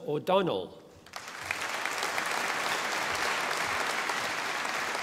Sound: audience applauding

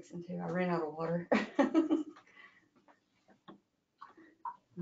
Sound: laughs

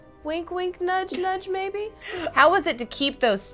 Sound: laughs

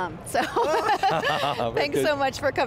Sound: laughing

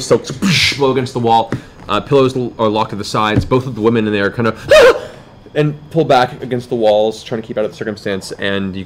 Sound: yelps

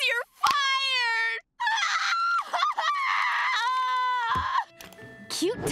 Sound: crying

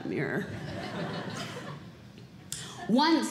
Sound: audience Laughing

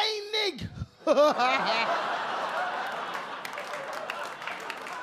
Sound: audience laugh

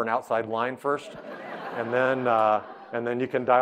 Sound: audience laughing

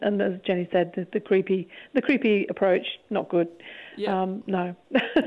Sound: laughs

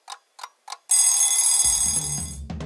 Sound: alarm clock

